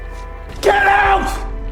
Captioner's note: shouting